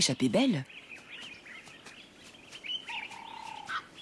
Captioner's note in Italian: cinguettii